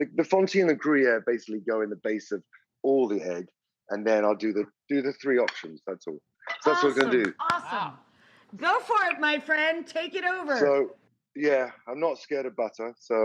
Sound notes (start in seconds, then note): 6.6 claps